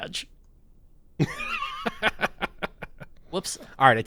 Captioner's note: laughs